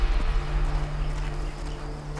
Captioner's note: birds chirping